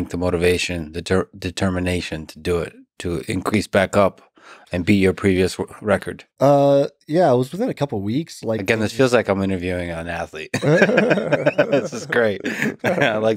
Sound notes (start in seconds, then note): 10.5 laughs